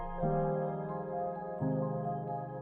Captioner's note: none